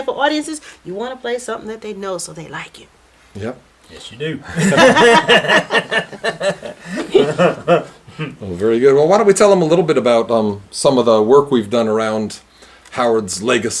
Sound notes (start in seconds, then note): 6.3 laughter